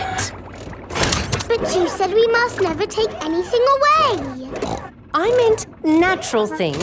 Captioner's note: snorts